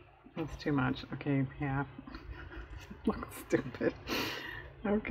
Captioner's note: laughs